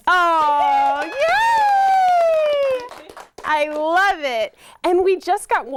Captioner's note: clapping and laughter